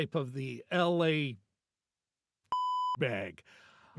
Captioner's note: beep